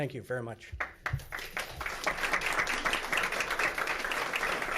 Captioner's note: audience clapping